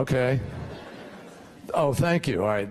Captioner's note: laughter